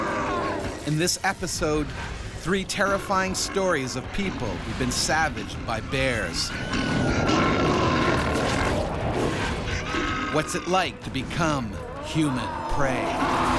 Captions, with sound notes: In this episode, three terrifying stories of people who've been savaged by bears. (screaming) (bear growling) What's it like to become human prey?